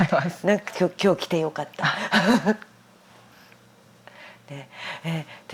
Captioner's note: laughs